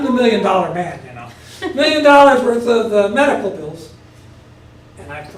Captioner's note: laugh